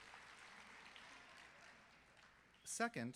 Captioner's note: applause